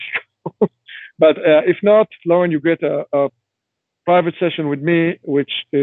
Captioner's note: chuckling